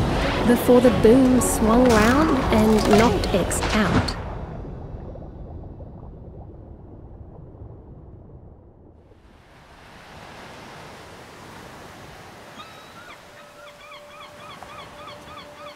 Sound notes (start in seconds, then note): 9.8 water gently splashing; 12.4 seagulls chirping